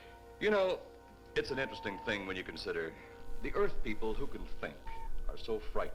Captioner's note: TV sounds